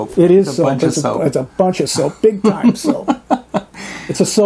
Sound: laughs

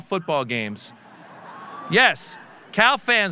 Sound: audience laughing

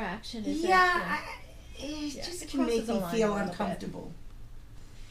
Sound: voiceover

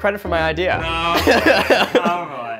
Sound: laughing

